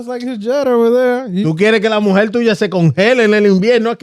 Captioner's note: speaking In Foreign Language